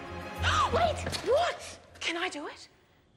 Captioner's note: fi gasps